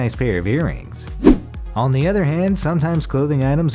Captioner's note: air whooshes